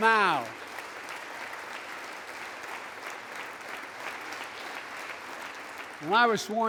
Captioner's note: applause